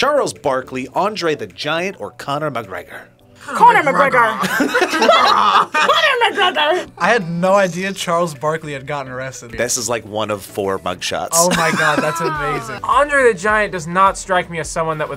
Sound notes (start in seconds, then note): 4.1 laughs